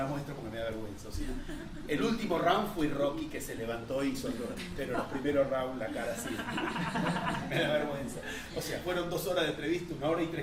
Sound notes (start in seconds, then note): 6.0 laughter